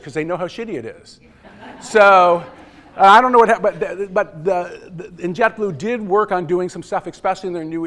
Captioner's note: laughter